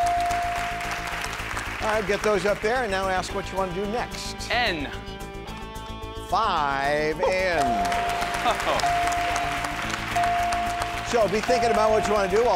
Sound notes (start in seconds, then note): 0.0 chimes dinging; 7.2 audience clapping; 7.2 chimes dinging